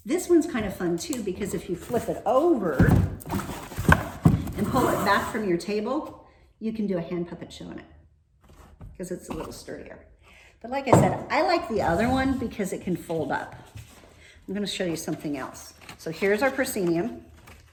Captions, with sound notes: This one's kinda fun too because, if you flip it over, (heavy thuds) and pull it back from your table, you can do a hand puppet show in it 'cause it's a little sturdier. But, like I said, I like the other one because it can fold up. I'm gonna show you something else. So here's our proscenium.